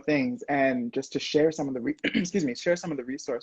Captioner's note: clears throat